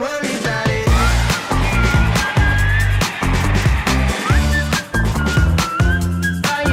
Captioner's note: bright upbeat music; artist whistling